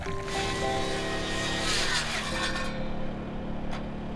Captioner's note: grinder whirring